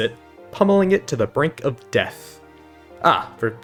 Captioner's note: pummeling